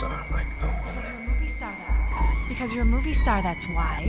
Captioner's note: echoing